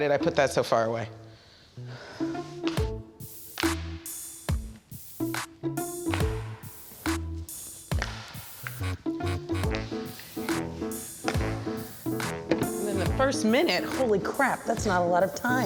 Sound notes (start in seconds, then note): 0.2 circle slapping on floor; 0.2 playful music; 3.4 sighing; 4.0 circle slapping on floor; 4.0 playful music; 7.6 circle slapping on floor; 9.0 playful music